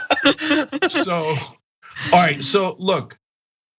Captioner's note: laugh